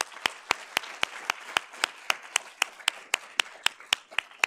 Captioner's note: audience applauding